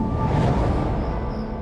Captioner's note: whooshing air; soft piano music